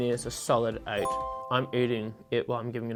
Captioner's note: bell dings